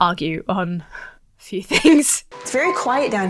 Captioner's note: laughs